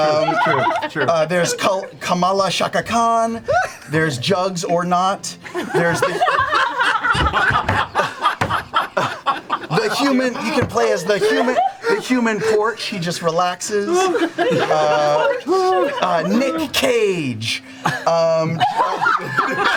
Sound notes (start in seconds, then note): 5.5 all laugh